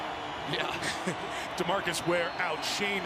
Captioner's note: laughing